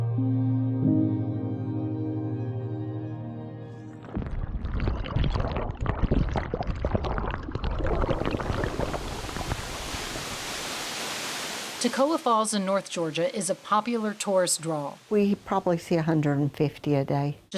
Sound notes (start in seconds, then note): 0.0 gentle music; 3.9 water gurgling